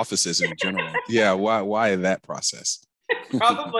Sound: laughter

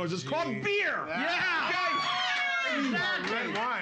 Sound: audience cheers

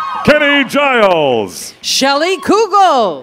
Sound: cheers and applause

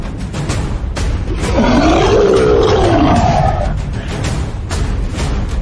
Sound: war Horn; monster Roaring; war Drums

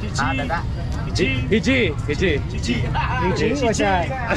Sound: seller talks in local dialect

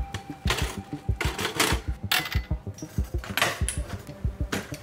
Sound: metal clanging

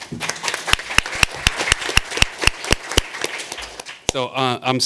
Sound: audience applauding

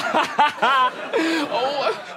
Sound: laughing

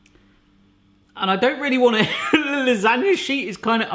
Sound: laughs

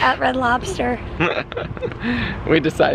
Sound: chuckling

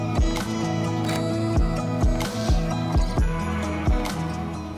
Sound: relaxed hip hop music continues; shutter closes

